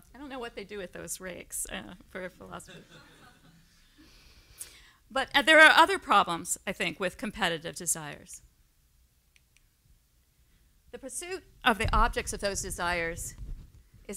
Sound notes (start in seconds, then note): 2.6 laughter